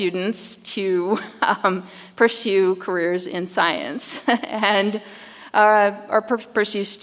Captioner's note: chuckles